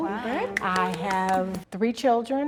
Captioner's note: teenagers applaud